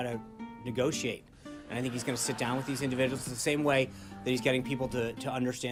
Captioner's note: raucous laugh track